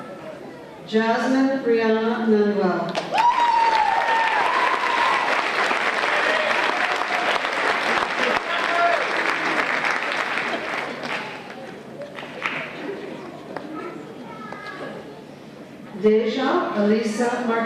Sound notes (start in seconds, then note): 3.0 applause and Cheers